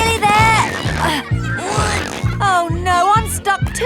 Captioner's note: grunting